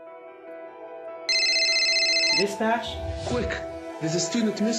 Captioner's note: upbeat music; telephone ringing